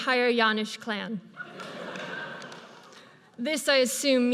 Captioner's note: audience laughs